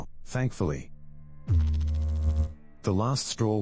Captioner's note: electrical noise